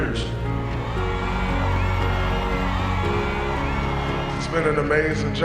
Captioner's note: crowd cheering; thoughtful piano music